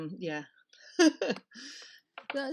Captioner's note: laughter